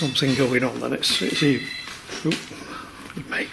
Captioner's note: phone ringing